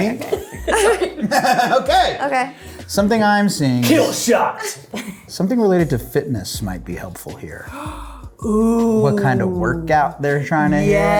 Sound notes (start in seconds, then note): 0.1 laughs; 7.6 gasps